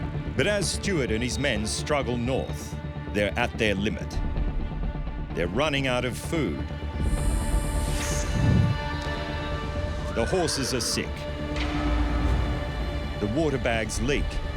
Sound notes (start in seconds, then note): 7.0 snake rattles; 10.0 horse neighs